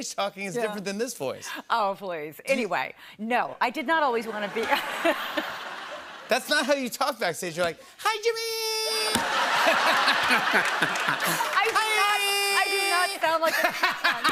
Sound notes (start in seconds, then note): 9.0 laughter